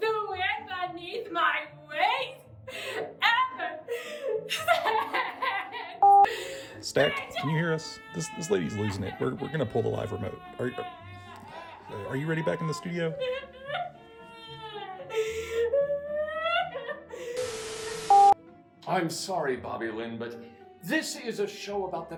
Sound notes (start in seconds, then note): 6.0 beep; 13.7 crying; 17.4 static hissing; 18.1 beep